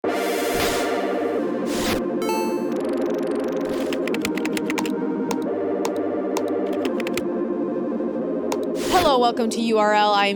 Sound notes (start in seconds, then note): 0.2 bright music; 3.4 keyboard typing; 6.4 mouse clicking